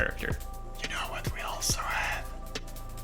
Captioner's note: whispering cringefully